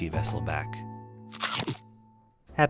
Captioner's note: chomp